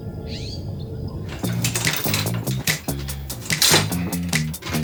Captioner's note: gear rattling